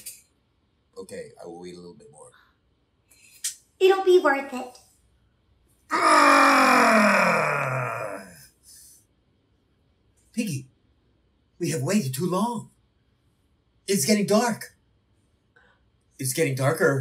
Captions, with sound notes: Okay, I will wait a little bit more. It'll be worth it. [groans the groaniest] Piggie, we have waited too long. It's getting dark. It's getting darker.